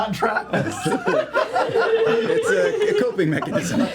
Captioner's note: laughter